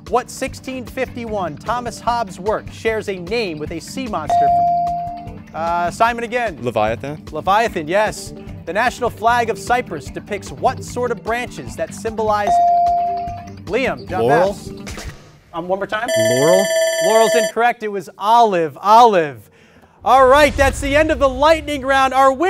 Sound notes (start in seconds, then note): 4.3 ding; 12.6 ding; 16.0 bell rings